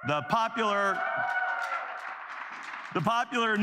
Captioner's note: cheers